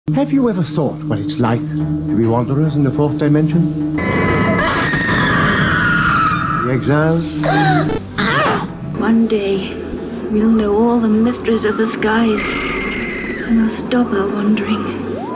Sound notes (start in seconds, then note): 3.9 stomach-turning scream; 7.2 guttural scream; 11.5 stomach-turning scream